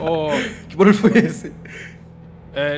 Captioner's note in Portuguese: Risos